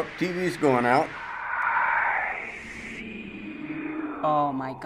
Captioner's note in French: faible, voix chuchotante